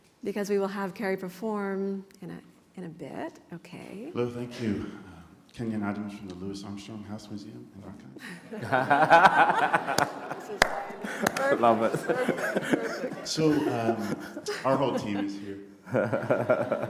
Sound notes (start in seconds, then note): 8.2 laughter